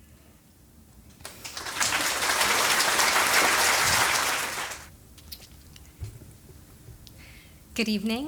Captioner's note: applause